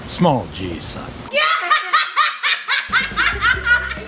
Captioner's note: kid laughs